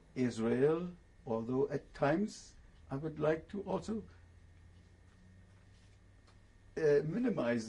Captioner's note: pauses for 3 seconds